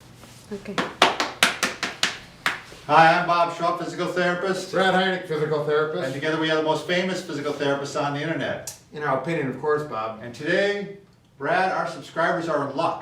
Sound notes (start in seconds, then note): 0.7 slaps